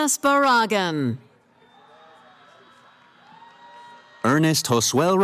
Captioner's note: cheering